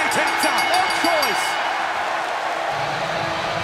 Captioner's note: bell ringing